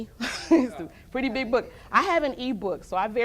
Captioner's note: laughter